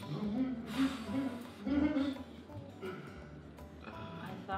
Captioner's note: laughter